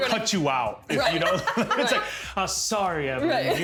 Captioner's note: laughing